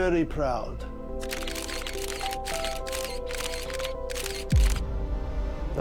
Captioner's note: mellow music; cameras clicking; pensive music